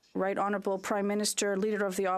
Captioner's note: speaking French